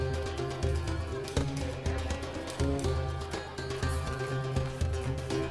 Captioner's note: chatter